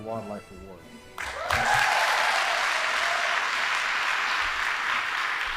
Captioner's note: audience applauding